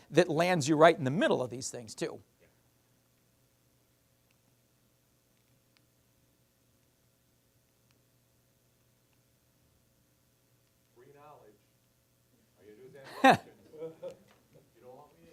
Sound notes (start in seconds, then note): 13.0 laughing